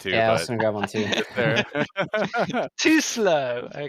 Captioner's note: laughter